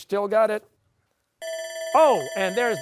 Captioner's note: bell ringing